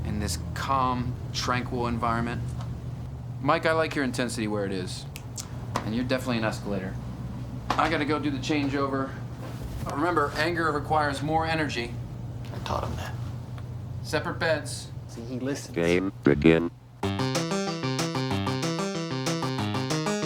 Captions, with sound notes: in this calm, tranquil environment. Mike, I like your intensity where it is. And you're definitely an escalator. I gotta go do the changeover. Remember, anger requires more energy. - I taught him that. - Separate beds. - See his listens. - [Automated Voice] Game begin. (video game music)